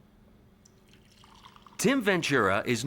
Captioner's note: coffee sloshing